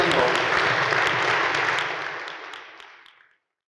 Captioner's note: audience applauds